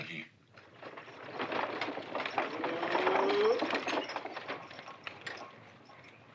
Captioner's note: carriage rattling